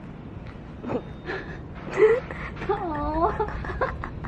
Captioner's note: laughing